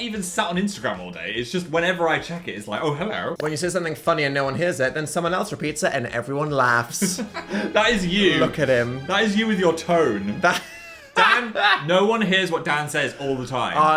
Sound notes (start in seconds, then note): 7.0 laughing; 10.3 laughing